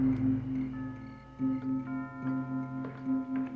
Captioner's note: doorbell rings